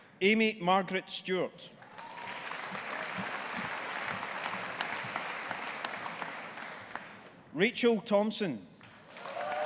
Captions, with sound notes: Amy Margaret Stewart. (AUDIENCE APPLAUDING) Rachel Thomson.